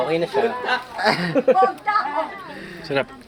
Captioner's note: laughs